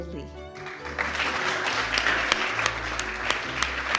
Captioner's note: clapping